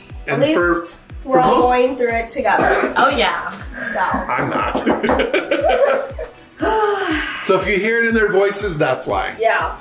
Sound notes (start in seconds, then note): 5.6 laughs; 6.4 makes exasperated sigh